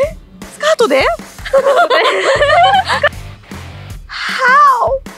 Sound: laughter

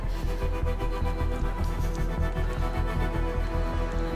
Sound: water spilling

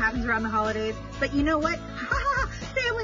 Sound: laughs

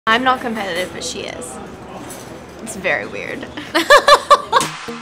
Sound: laughter

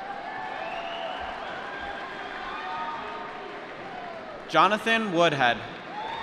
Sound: applause

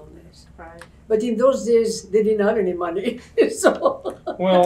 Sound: laughs

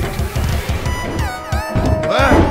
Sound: Peppino yells

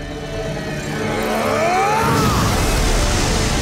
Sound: grunting

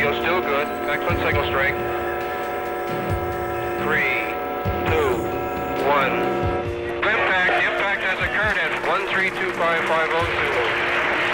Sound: cheering

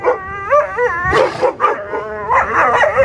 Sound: dogs barking and howling; sea lion screaming; dogs barking and howling

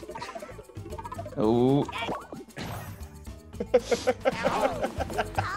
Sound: laugh

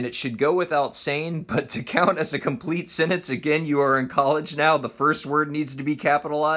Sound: laughs

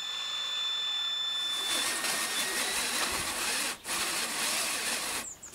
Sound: humming and whirring drill

